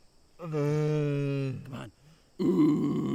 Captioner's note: Keith groaning